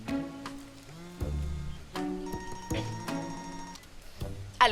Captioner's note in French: téléphone qui vibre, qui sonne